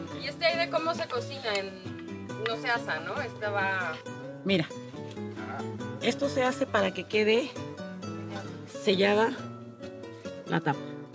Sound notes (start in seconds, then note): 0.3 speaking Spanish; 5.0 in Spanish